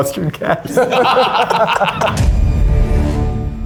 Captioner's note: all laughing; intense music